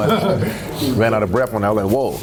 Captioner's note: laughter